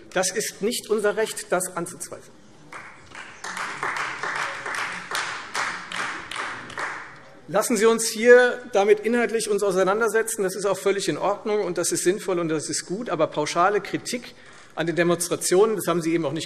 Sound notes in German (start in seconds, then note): 2.7 Beifall Freie Demokraten